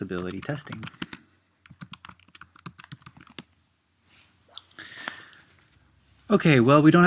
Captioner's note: typing